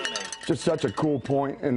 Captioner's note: cowbell ringing